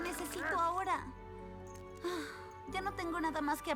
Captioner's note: sigh